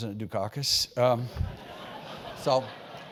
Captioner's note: laugh